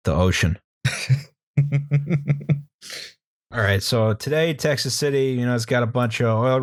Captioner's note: laughter